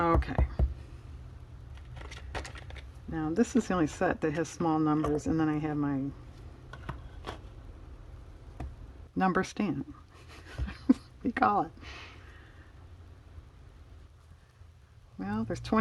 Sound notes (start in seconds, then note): 10.2 laughs